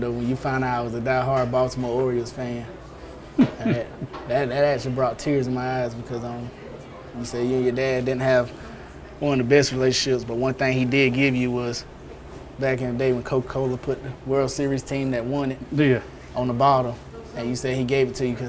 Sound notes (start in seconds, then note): 3.4 laughing